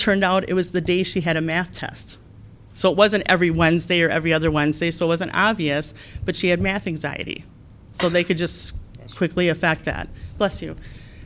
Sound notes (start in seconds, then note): 7.9 sneeze